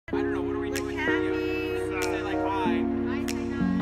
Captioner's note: people talking